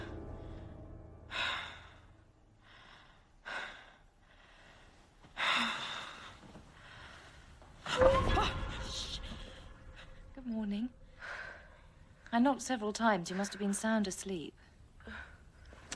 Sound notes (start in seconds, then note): 7.8 tense music plays; 7.9 Louise gasps